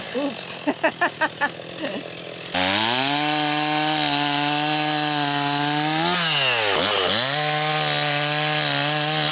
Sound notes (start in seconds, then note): 0.5 laughing; 2.7 chainsaw rumbling